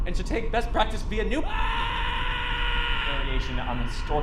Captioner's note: man screaming